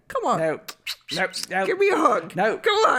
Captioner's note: kissy noises